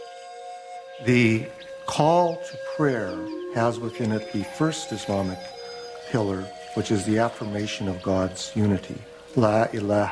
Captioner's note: speaking Arabic